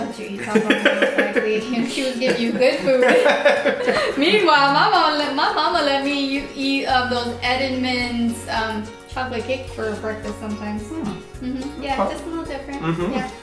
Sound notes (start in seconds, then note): 0.3 laughing; 10.8 humming